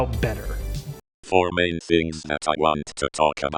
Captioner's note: robotic Voice